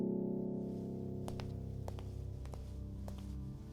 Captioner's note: footsteps